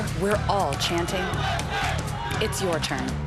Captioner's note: crowd chanting